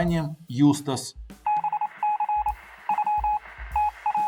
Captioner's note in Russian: звуки азбуки Морзе